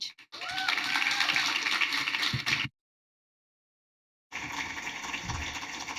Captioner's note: applause